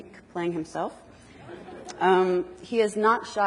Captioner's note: audience laughs